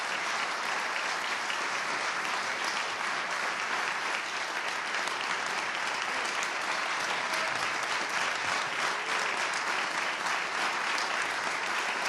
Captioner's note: applause